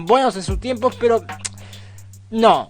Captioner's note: tsk